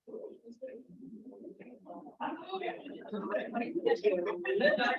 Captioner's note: members chattering